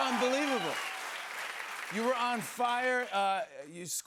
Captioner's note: cheers and applause